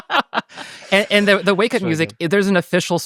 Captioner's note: everybody laughing; faintly speaks